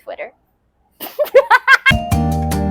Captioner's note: manic Laughter